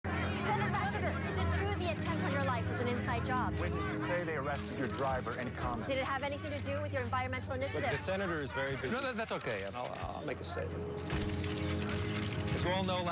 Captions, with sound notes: ON YOUR LIFE WAS AN INSIDE JOB? (camera shutters clicking) T WITNESSES SAY THEY ARRESTED YOUR DRIVER. ANY COMMENT? DID IT HAVE ANYTHING TO DO WITH YOUR ENVIRONMENTAL INITIATIVE? LOOK, THE SENATOR IS VERY BUSY-- NO, TH-THAT'S OKAY. I'LL--I'LL MAKE A STATEMENT.